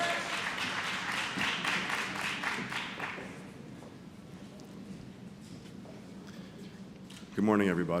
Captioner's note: applause